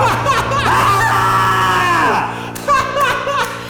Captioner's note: upbeat music ends; screaming; laughing